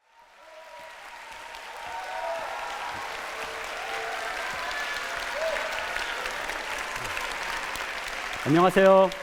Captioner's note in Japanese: 拍手と歓声